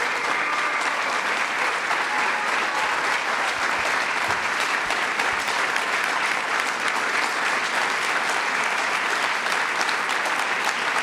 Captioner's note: applause